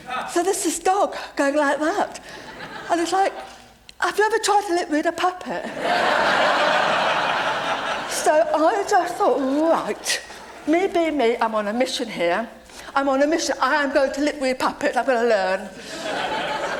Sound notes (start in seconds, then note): 5.6 laughter